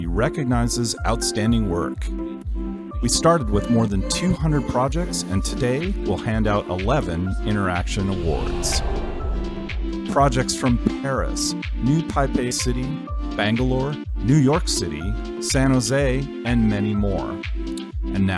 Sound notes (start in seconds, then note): 7.9 air whooshing